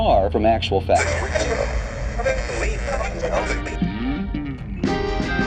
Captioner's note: radio hissing; light upbeat music